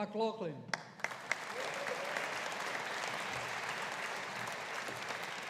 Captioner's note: audience applauding